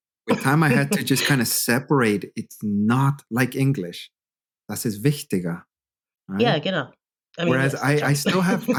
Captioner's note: speaking corrected German